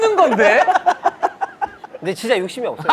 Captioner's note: laughing